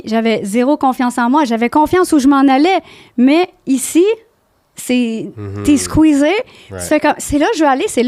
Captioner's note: in french